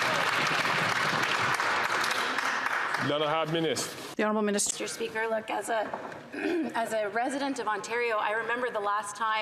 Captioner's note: some Applause